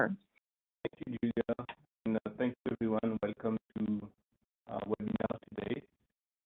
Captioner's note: audio blurs